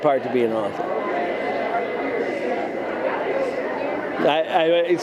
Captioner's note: convention goers chattering